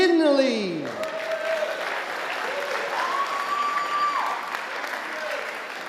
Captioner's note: audience applauding and cheering